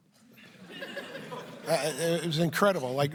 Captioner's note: laughter